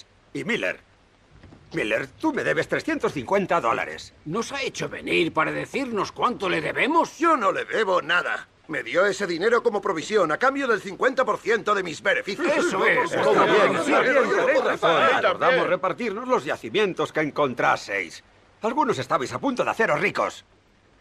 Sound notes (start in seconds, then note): none